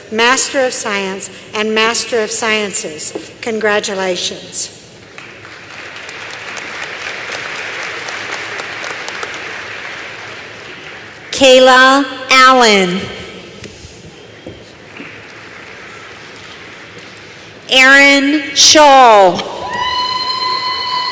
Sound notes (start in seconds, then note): 5.1 applause